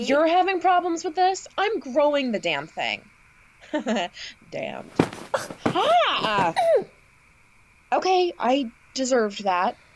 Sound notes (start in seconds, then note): 4.8 PAULINE whacks MAGGIE with the laundry. PAULINE grunts